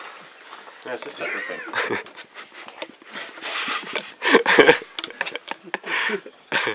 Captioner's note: giggling